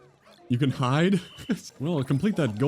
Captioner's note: laughs